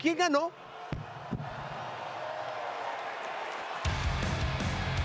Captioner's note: applause